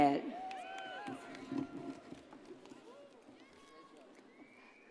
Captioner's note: audience cheers